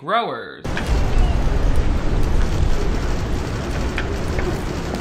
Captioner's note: wind blowing